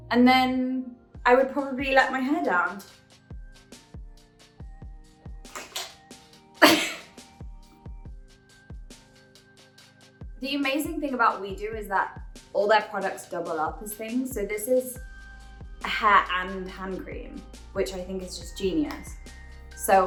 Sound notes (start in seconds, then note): 3.5 Phoebe chuckling; 3.5 chill music